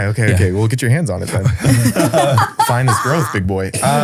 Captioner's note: group laughing